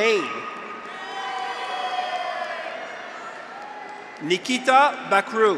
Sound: graduates cheer; audience applauds

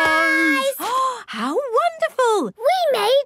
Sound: gasps

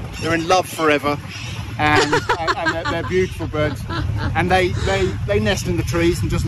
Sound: hahaha!

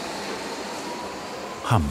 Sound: train noise

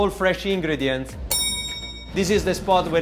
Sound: bell dings

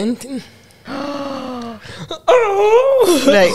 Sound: gasps; chuckles

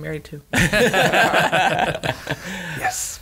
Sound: laughter

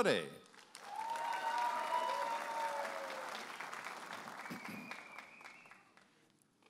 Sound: audience applauding and cheering

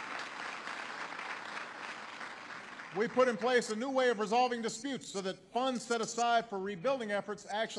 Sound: applause

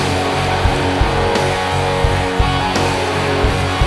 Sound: crowd cheering

